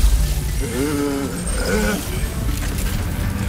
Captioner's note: growls